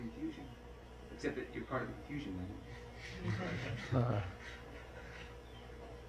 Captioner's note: laughter